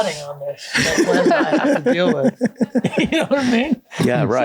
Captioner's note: all laugh